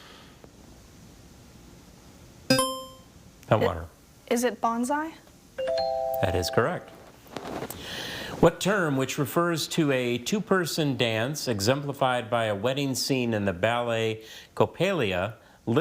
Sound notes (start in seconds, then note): 2.5 buzzer chimes; 5.6 tone chimes